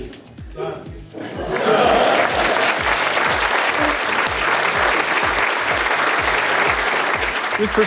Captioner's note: audience laughs and applauds